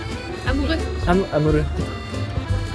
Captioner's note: Korean accent